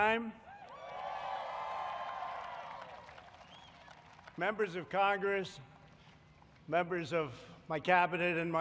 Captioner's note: applause